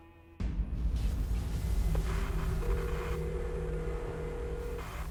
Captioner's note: static buzzing